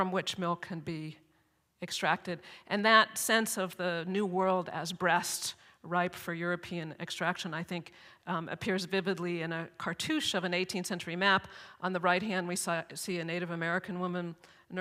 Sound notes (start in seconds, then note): none